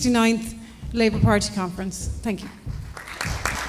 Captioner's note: applause